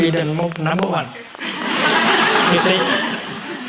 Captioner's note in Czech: smích